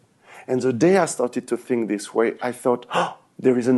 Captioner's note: gasps